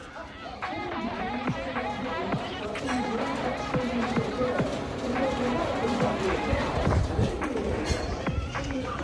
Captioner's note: music fades out to metal hammering sounds, and a voice over a loudspeaker